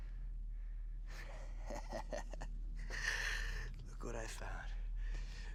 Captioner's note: laughing